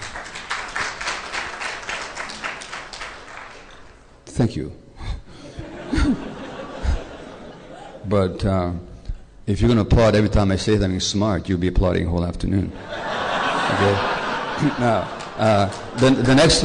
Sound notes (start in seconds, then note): 0.0 applause; 5.4 laughter; 15.4 laughter